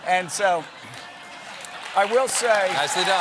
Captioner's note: cheers and applause